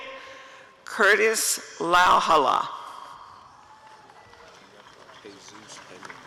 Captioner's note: applause and cheering